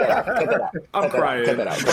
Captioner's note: all laughing